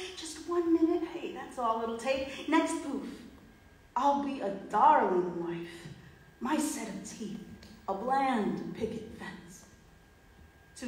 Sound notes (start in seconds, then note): none